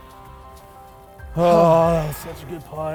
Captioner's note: groans